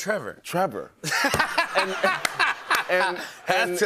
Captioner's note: laughter